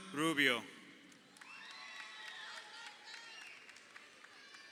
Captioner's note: crowd cheering